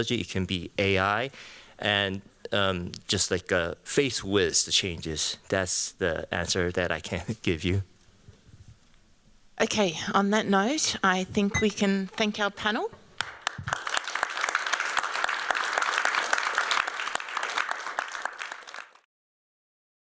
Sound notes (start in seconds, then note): 13.2 applause